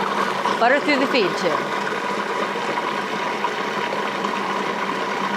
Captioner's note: food processor whirring